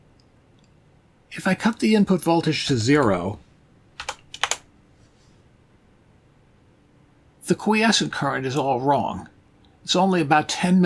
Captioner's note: sound of keyboard